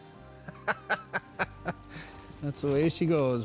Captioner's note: laughs